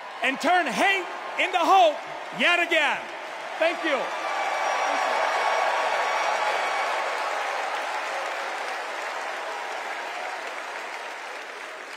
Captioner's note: cheers and applause